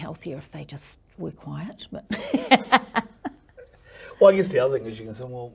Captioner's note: laughs